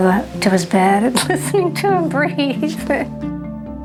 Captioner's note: chuckles